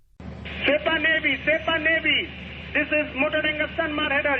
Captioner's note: through translator